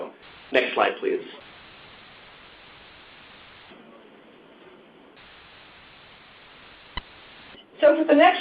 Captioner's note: silence